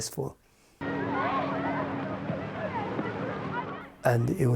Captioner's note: people chattering